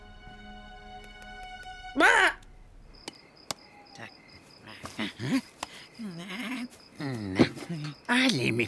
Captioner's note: laughs